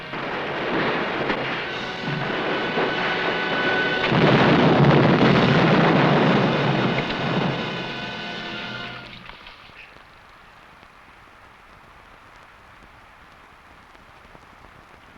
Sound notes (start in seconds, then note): 4.0 explosion blasting